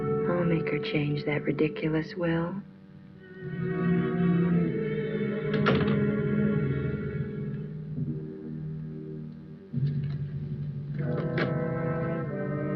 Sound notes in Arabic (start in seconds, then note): 5.4 يُغلق الباب